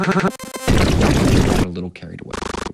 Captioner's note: harsh distorted noises